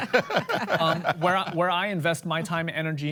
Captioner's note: laughter